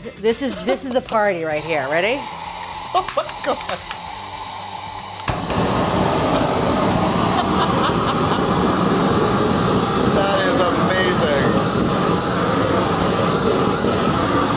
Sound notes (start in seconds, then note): 2.3 blow torch hissing; 7.2 laughing; 8.2 blow torch hissing; 11.4 blow torch hissing